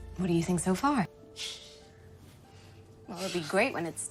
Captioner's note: laughing